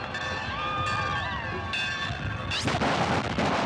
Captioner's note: bell ringing, people shouting; gunshots